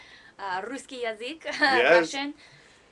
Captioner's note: speaking in russian